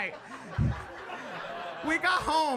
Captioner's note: audience laughing